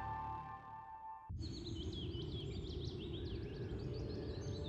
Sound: birds chirping

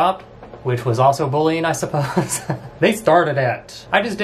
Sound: laughs

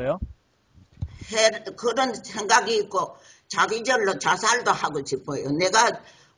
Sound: speaks in foreign language

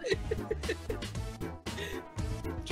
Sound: laughing

